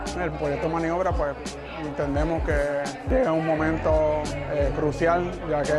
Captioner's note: speaks in foreign language